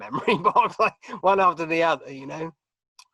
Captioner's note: chuckling